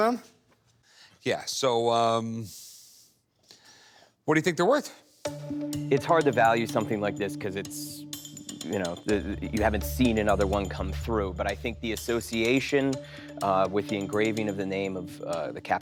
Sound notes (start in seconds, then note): none